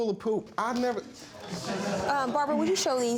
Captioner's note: audience laughing